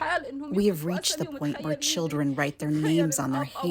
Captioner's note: through translator